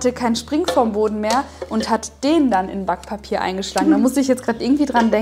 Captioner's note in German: lacht